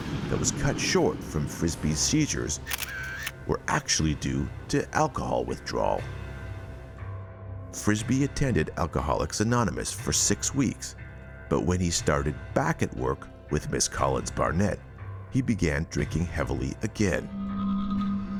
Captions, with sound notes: that was cut short from Frisbee's seizures (camera shutter clicking) were actually due to alcohol withdrawal. Frisbee attended Alcoholics Anonymous for six weeks, but when he started back at work with Ms. Collins Barnett, he began drinking heavily again.